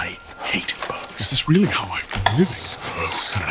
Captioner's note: growing panic